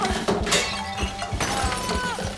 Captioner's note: crash; crying